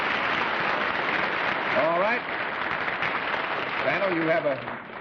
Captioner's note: applause